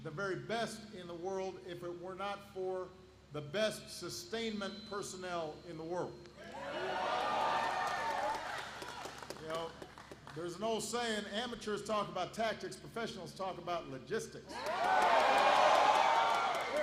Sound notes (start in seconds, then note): 7.0 applause; 14.5 applause